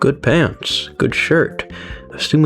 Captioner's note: inhales Oxygen